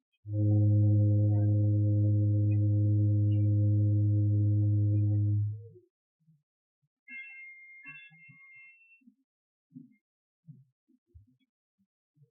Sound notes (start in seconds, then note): 0.4 ship's horn blows; 7.0 bell clangs